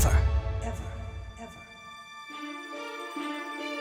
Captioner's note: echoing